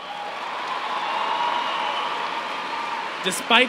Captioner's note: applause